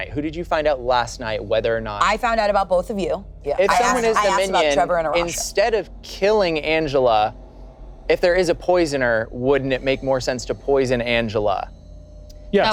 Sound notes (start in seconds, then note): 3.4 group talking together